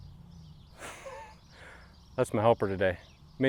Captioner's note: man laughing